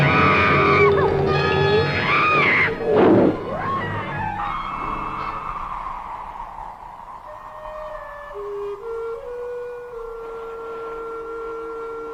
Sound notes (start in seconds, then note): 0.1 small Dove screaming; 3.6 monster groaning